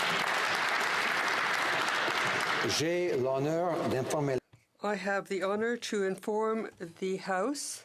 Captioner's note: some Applause